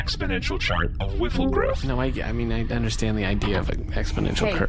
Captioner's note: sound of file opening